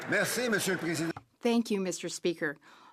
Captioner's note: some Applause; speaking French